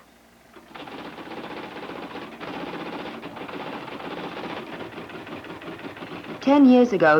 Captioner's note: electric typewriter clicking